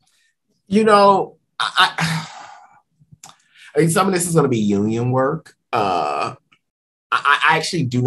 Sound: sigh

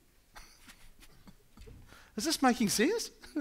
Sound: laughing

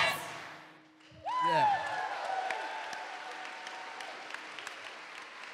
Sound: audience cheering

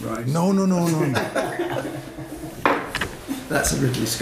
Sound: laughs

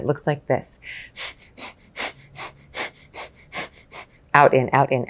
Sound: breaths fast

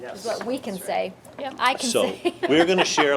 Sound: laughs

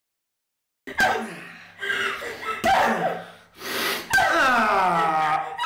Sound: Mark grunts

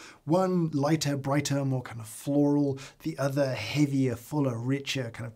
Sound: none

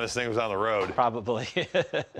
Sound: chuckles

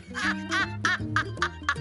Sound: laughs

